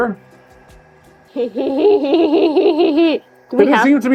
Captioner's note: laughing